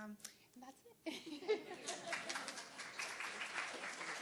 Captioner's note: laughter; applause